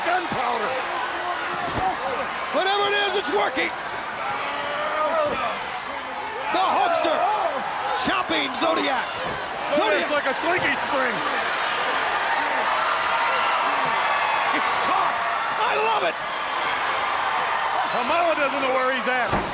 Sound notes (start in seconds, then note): 15.4 crowd chattering